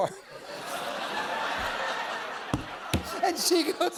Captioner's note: laughter